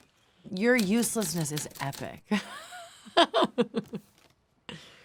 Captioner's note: laughs